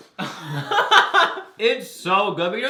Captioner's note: both laugh